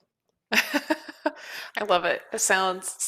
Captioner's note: laughs